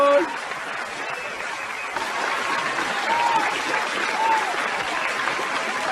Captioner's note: audience applauding; audience cheering